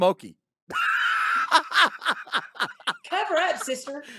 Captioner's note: laughing